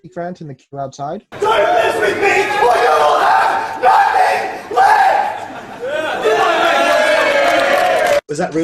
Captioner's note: applause